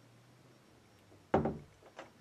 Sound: door closes

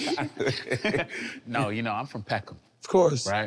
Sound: laughing amusingly

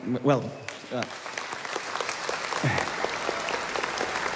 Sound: audience clapping

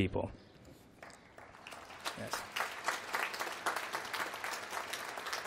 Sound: applause

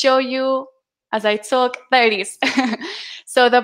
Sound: chuckling

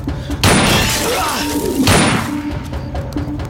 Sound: gunshot

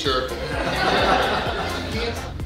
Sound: hahaha

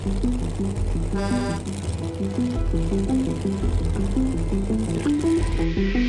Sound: horn honking

